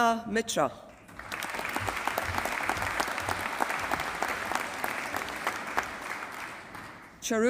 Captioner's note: applause